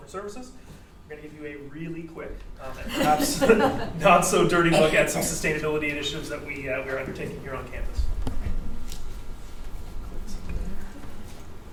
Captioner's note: audience laughter